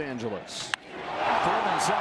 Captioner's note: cheering